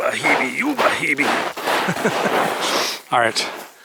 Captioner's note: laughter